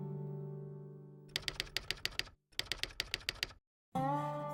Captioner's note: typewriter sounds